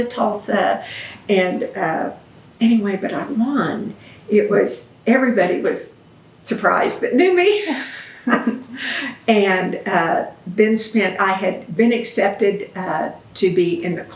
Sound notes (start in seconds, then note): 7.5 laughs